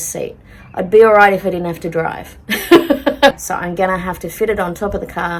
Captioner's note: laughs